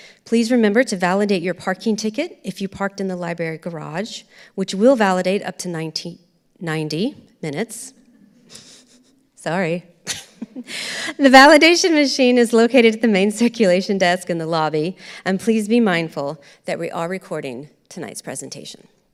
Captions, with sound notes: Please remember to validate your parking ticket, if you parked in the library garage, which will validate up to 19-- 90 minutes. (audience laughing) Sorry! (chuckles) The validation machine is located at the main circulation desk in the lobby. And please be mindful that we are recording tonight's presentation.